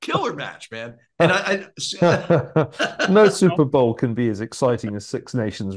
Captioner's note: laugh